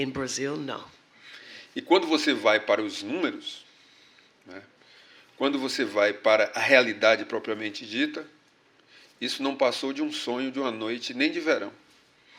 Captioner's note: speaking portuguese